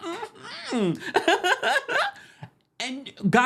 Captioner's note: laughs